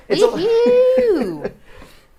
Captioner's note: laughs